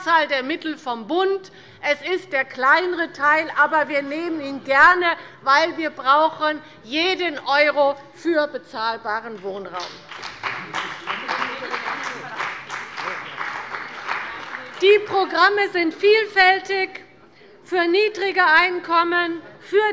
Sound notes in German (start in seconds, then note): 9.7 Beifall bei der CDU und bei dem BÜNDNIS 90/DIE GRÜNEN